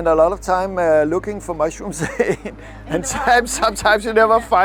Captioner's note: laughter